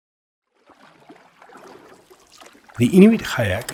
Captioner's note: water moving